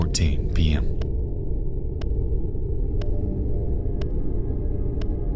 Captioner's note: clock ticking continues